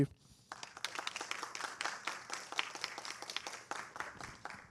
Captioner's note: applause